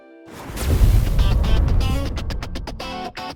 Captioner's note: BK423 Logo's Explosion